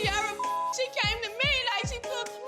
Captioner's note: sobbing